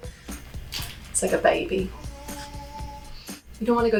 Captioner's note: baby wailing